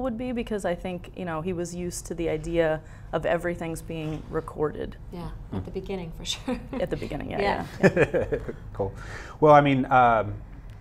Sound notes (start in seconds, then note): 8.2 laughs